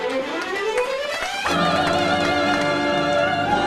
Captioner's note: applause